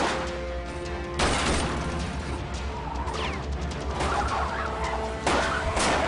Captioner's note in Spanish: Disparos